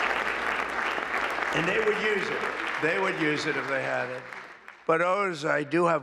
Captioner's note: applause